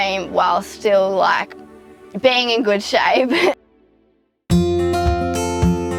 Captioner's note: laughs